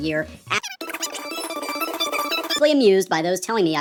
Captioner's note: squeaky gibberish